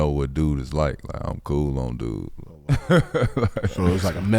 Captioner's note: laughs